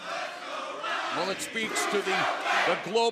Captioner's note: fans chanting